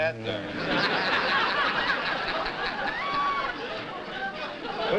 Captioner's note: laughter